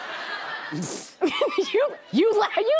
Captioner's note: laughs